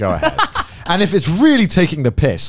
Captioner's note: laughs